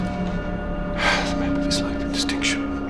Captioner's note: sighs heavily